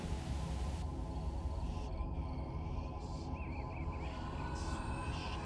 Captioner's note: birds chirping